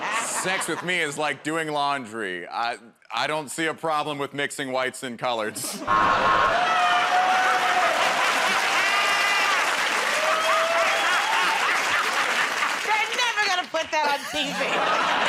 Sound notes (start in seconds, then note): 5.9 buzzer; 5.9 cheers and applause; 11.4 laughs